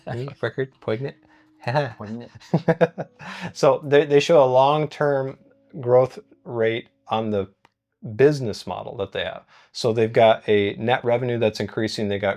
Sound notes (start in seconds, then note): 1.6 both laughing